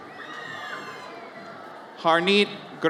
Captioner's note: audience cheers